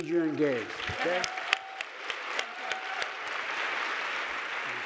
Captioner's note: audience applauding